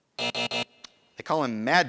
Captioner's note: buzzing